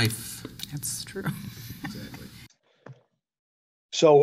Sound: laughs

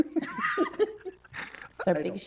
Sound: trustees chuckle

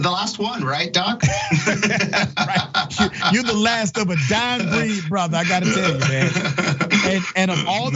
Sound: laugh

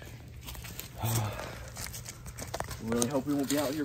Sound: sighs

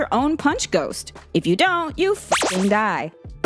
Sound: beep

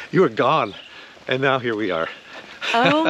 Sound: laughing amusingly

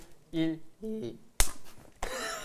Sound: clap

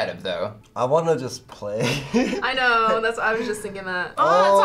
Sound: laughs

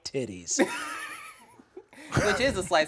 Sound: laughs

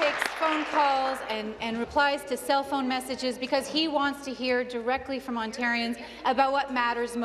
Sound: applause

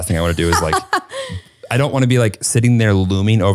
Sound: laughing

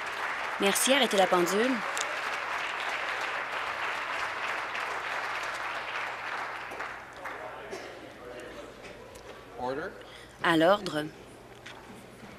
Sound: applause

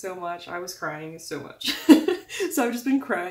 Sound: laugh

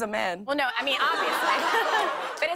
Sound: laughter

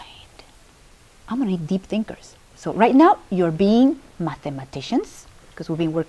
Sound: normal voice

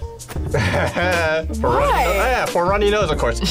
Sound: laughs

